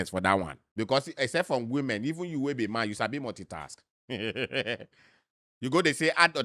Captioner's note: laughs